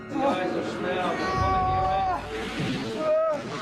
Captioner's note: yells